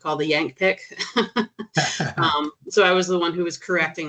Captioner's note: chuckling